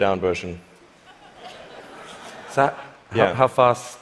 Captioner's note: laughter